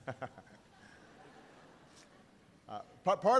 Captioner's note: laughter